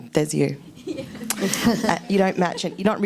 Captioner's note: laughs